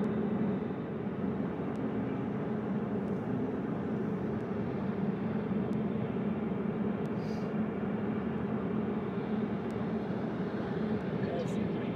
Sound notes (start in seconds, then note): none